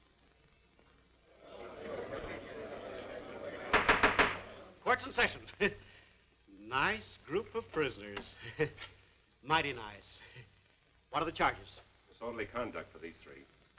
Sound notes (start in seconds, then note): 5.3 chuckles; 8.3 chuckles